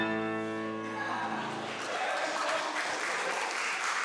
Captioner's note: lively tango music; audience cheers